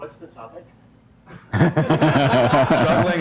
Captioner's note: laughter